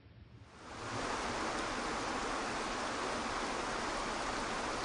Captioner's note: waterfall rushes